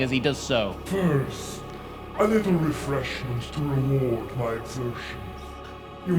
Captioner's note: malevolent voice